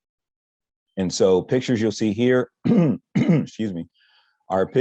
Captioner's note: coughs